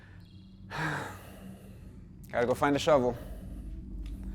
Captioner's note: sighs